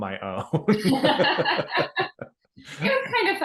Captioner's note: both laughing